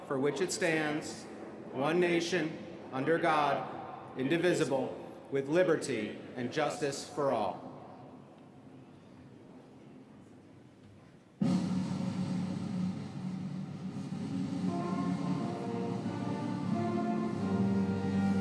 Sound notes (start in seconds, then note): none